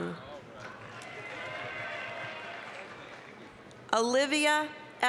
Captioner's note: applause, cheering